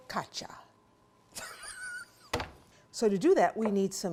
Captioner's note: laughter